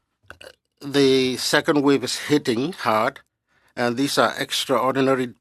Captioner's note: speaking French